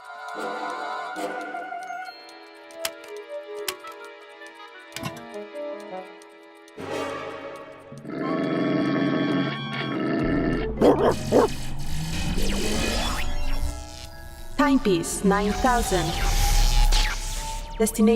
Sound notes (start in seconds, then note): 0.1 suspenseful music; 2.8 light music; 8.0 growling; 10.8 barking angrily; 11.0 static noises; 14.6 robot voice